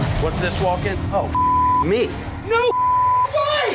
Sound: beep

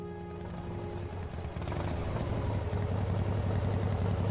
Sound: engine hums

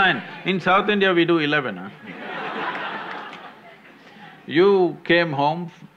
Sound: laughter

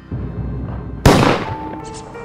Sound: gun shot

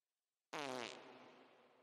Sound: farts

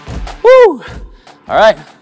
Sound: breathes deeply

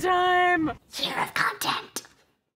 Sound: harsh whispering

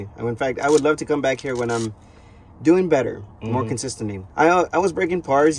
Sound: inhale

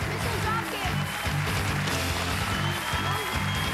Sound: cheers and applause

